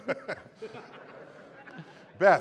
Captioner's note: laughter